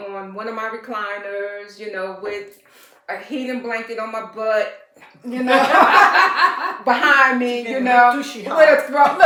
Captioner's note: laughter